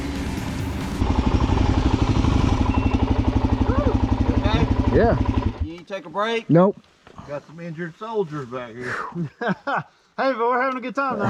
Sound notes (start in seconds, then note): 0.0 engines louder